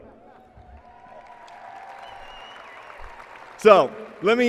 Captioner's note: applause and cheering